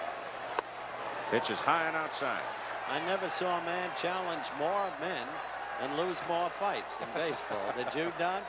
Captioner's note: laughter